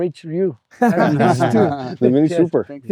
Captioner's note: laughing